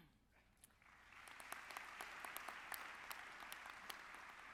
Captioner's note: audience clapping